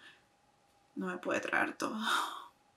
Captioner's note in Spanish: sobbing